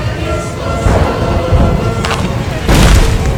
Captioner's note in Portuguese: Barulho de chuva muito forte; cabrum; Barulho de árvore caindo